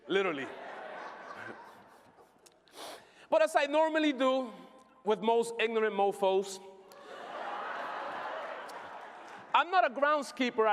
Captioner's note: laughter